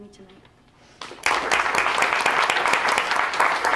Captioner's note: applause